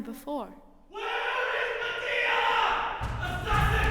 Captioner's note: yelling offstage